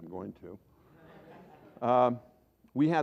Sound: laughter

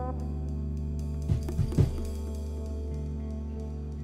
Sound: loud knock on the Door

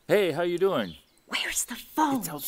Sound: whispering

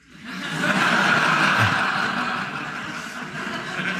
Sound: everyone laughing

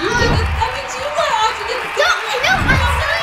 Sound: cheers; voices drowned out by cheering

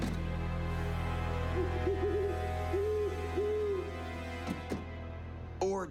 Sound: owl hooting

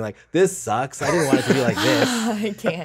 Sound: all laughs

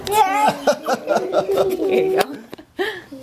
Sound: laughing

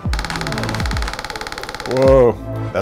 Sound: pecking sound

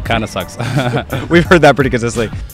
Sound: laughs

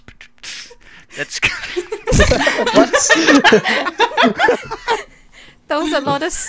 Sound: laughter

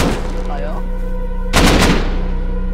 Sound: gunfire

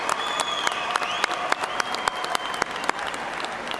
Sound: cheers and applause

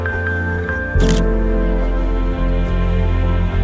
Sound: camera shutter clicks

